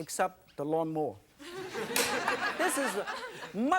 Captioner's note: audience laughing